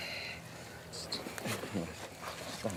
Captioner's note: low talking